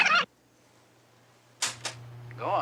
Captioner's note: tape warbling; play button clicks